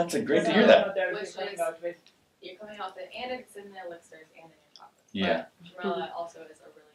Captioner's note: muffled chatter